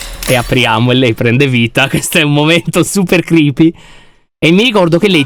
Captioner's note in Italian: Poppy parla in sottofondo